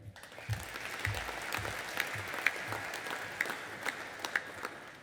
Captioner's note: audience applauding